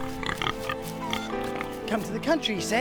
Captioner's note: pigs grunting